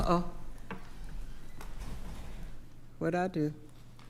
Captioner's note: door closes